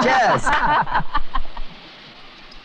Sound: laughing

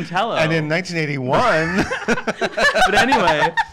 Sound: laughing

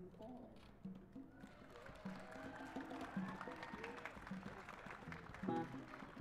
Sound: cheers and applause

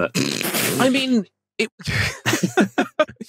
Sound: snorts; laughs

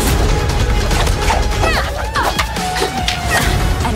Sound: Raya grunts

